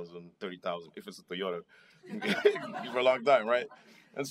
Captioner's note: laughter